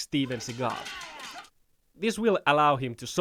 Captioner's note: rapid wooden clacking